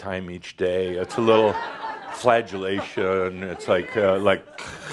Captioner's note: some laugher